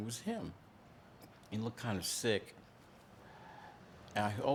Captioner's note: none